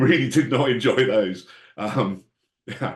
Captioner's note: laughs